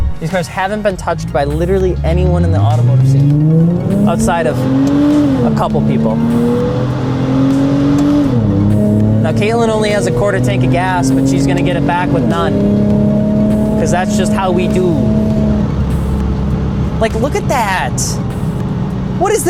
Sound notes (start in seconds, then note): 6.1 engine revving